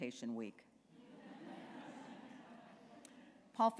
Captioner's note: laughter